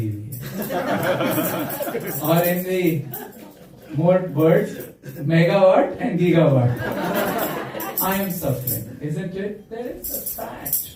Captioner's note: laughter